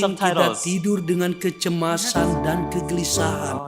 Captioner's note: speaking indonesian